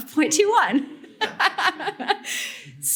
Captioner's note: laughter